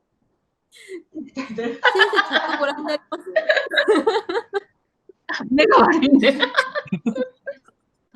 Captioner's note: laughing